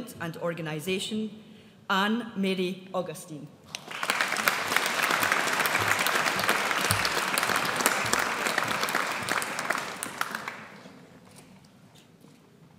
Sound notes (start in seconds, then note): 3.7 audience applauds